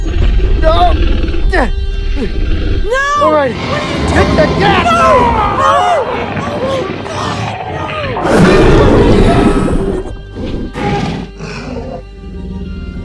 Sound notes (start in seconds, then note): 0.0 T-Rex Stomping and Growl Sounds; 8.5 T-Rex Growls